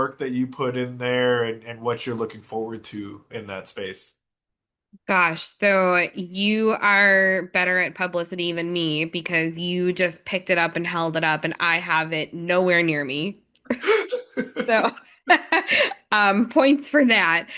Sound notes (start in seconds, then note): 13.7 laugh